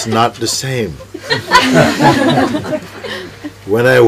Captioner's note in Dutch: gelach